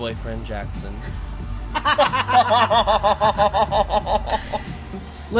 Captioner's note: laughs